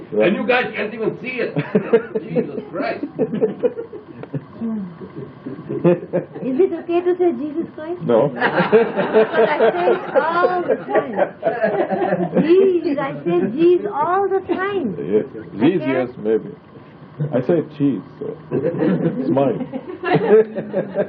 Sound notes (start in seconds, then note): 3.2 laughter; 8.3 laughter; 18.2 laughing